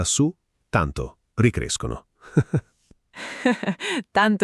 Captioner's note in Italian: Haha